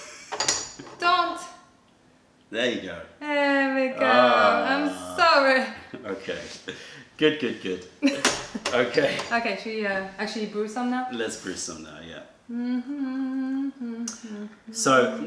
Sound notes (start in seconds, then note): 8.0 laughter